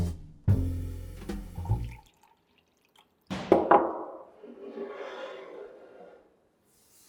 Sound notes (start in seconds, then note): 1.7 milk pouring; 3.3 carafe hits countertop